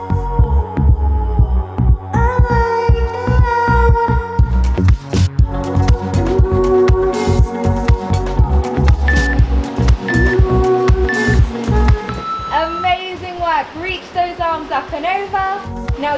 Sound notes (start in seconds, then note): 8.6 waves whooshing; 9.0 timer beeping